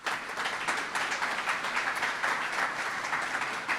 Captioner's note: audience applauds